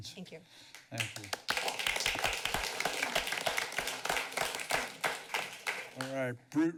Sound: applause

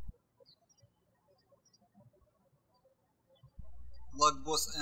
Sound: birds chirping

